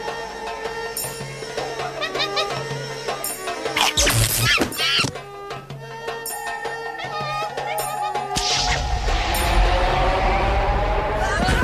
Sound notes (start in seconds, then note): 0.2 arabic instrumental music; 3.6 monkey screeching; 3.8 zapping